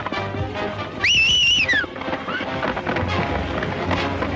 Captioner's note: Stony whistles